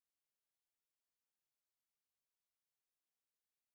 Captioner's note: none